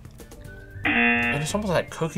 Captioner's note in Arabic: طنين الجرس